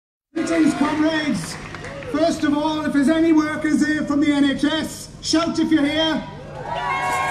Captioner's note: shouts